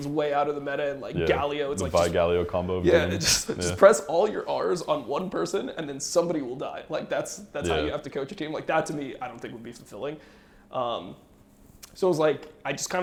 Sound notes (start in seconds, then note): 3.0 laughs